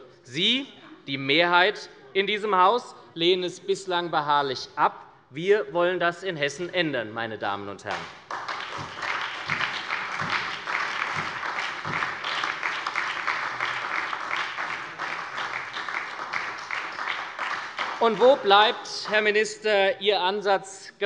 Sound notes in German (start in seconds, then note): 7.9 Beifall bei der SPD